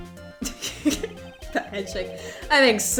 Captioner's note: laughs